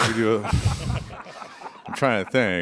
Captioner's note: laughter